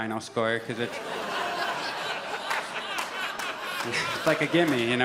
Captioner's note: audience laughs and groans